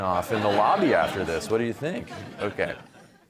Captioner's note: audience laughing